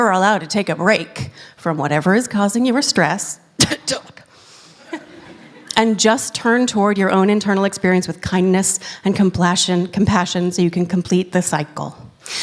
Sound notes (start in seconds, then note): 3.6 coughs